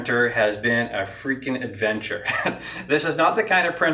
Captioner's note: laughs